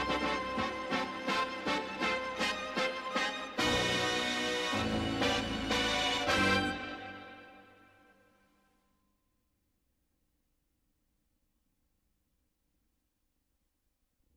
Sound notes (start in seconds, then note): 9.2 silence